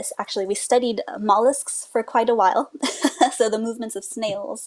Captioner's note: laughs